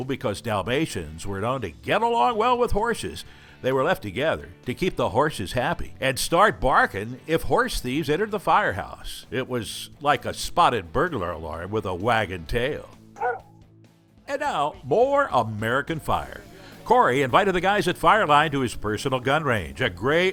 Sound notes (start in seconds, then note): 13.2 bark